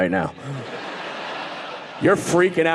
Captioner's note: audience laughing